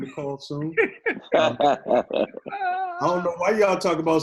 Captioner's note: all laughing